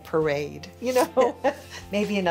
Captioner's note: chuckling